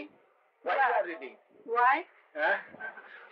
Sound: laughter

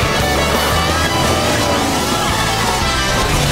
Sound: speeding

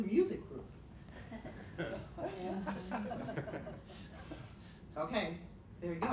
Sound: laughter

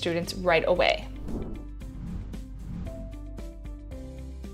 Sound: air whooshing

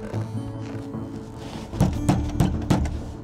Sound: pounding on door

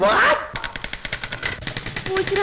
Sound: typewriter Clacking

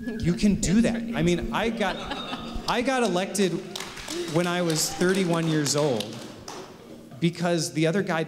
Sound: applause

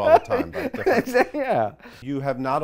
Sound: laughs

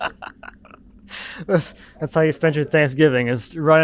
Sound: laughing

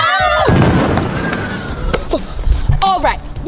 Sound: all screaming; explosion

